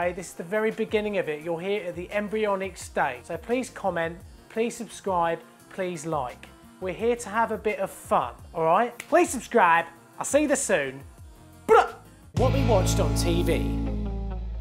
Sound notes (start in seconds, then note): 11.7 rock music; 11.7 loud yell